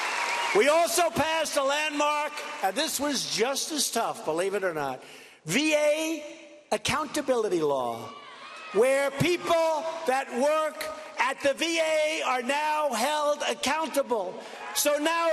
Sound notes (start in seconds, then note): 4.5 cheers and applause